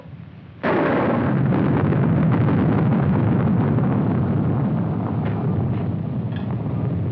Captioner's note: thunder